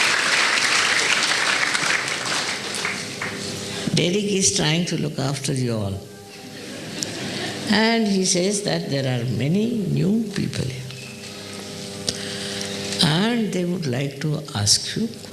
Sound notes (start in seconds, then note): 3.6 laughing; 13.9 laughter